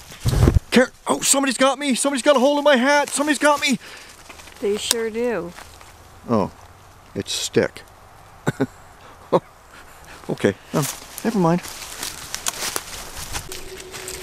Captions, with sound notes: -Oh somebody's got me! Somebody's got a hold of my hat! Somebody's got me! -They sure do. -Oh, it's a stick. [chuckle] Okay, never mind.